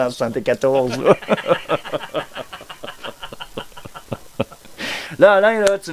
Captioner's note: laugh